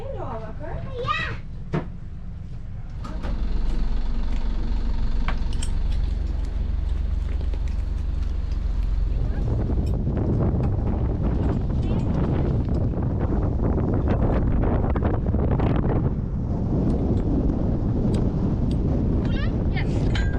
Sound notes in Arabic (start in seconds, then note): 3.6 زئير محرك القارب; 10.0 هدير الرياح